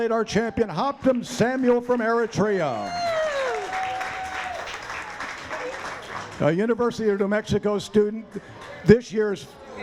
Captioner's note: applause